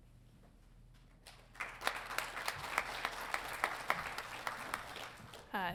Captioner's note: audience applauding